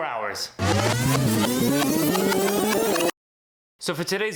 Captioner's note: tape rewinding